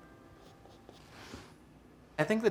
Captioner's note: paintbrush stroking